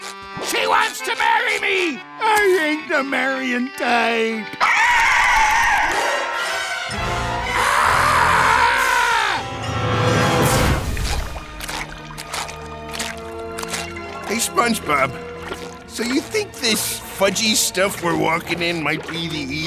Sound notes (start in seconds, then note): 4.2 screeching; 7.4 screaming